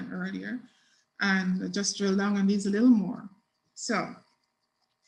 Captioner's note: mutters